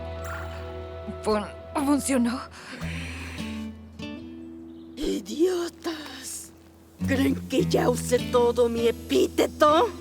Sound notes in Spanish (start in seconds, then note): 2.7 Zora suspira